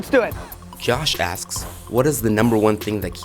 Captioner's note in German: Voice-over